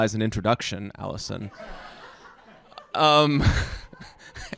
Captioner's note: laughs